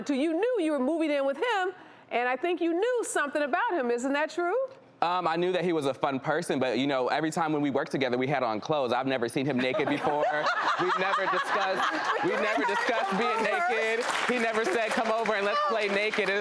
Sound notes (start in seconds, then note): 9.5 laughter